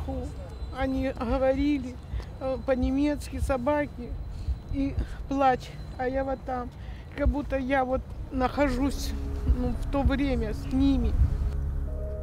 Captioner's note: speaking Foreign Language